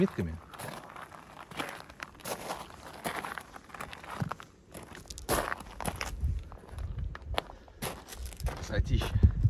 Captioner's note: footsteps sound